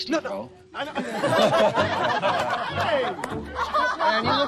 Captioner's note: laughter